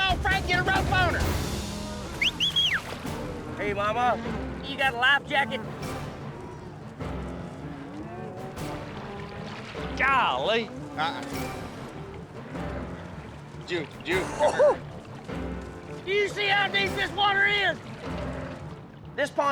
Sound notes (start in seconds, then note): 2.1 whistles; 6.2 tense music; 11.5 tense music